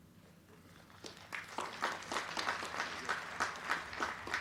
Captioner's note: crowd clapping